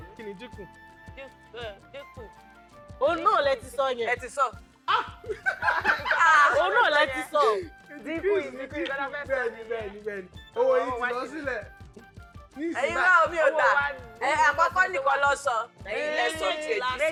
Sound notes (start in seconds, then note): 4.9 laughs